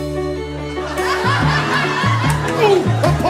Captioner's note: audience laughing